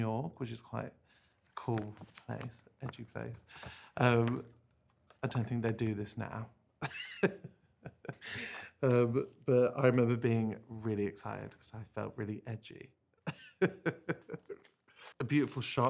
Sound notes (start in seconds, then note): 6.8 laughter; 13.2 laughter